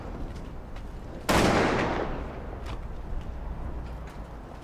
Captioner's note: gun shot